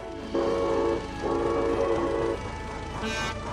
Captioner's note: dustin whistles